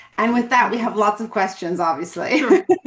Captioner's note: laughs